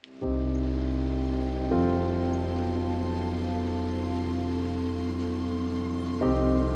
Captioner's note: calm piano music; engine rumbling